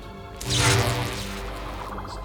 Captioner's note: electricity crackles